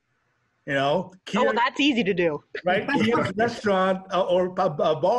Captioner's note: laughs